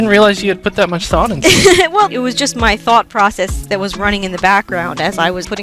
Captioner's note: laughing